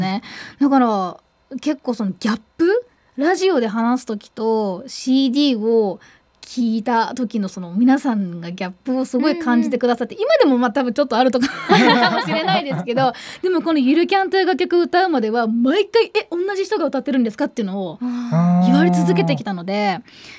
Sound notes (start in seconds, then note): 11.5 laugh